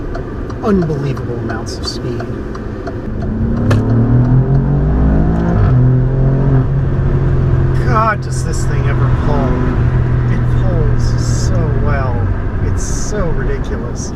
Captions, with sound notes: unbelievable amounts of speed (engine noise) God, does this thing ever pull! It pulls so well! It's so ridiculous.